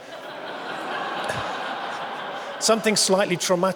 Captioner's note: audience laughing